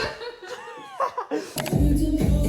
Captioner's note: I Laugh